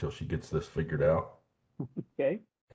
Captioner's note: chuckling